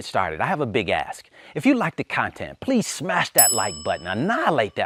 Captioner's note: ringing